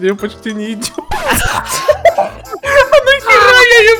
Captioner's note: laugh